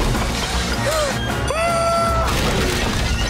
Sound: gasping; screaming

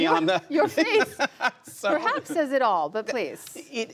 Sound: laughter

